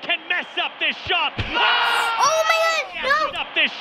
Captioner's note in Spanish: Gemido comentaristas deportivos